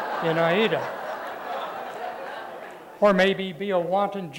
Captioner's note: laughter